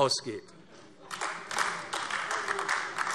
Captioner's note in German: Heiterkeit und Beifall AfD